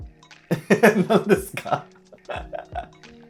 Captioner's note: laughing